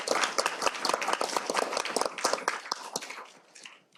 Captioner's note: applause